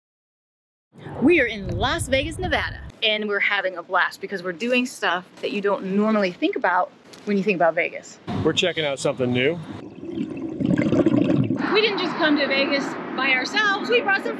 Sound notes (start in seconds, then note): 9.8 water gurgling